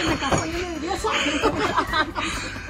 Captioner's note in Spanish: risas